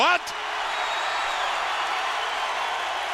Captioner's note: crowd cheering